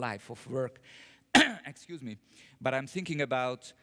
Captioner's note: cough